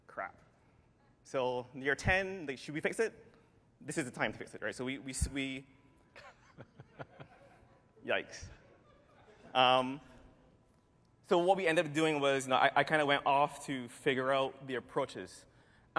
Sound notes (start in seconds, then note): 6.1 laughter